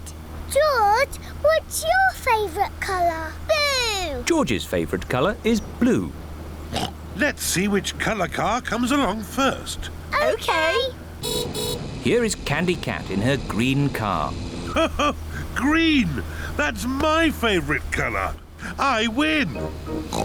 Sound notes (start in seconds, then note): 6.7 oinks; 11.2 horn beeps; 14.6 laughs; 20.0 oinks